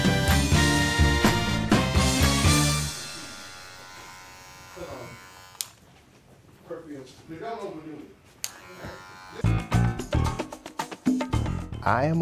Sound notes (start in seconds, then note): 2.2 clipper buzzing; 5.3 faint chattering; 8.4 clipper buzzing; 9.4 upbeat music